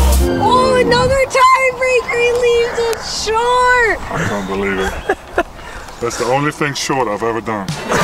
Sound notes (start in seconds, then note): 4.1 host laughing